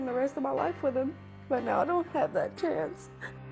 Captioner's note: sobs